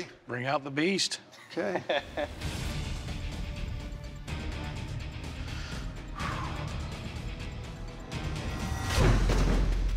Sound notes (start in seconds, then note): 1.4 laughter; 5.1 breathes deeply